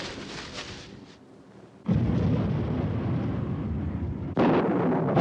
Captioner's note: thunderclap